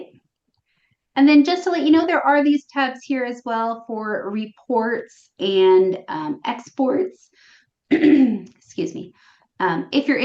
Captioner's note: clears throat